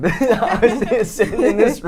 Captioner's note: laughs